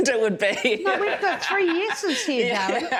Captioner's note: loud chuckling